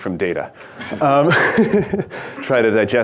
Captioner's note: laughs